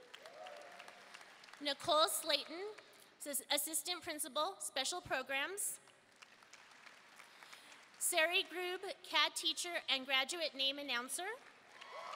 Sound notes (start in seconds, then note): 0.0 audience applauding and cheering; 6.1 audience applauding; 11.6 audience cheering and applauding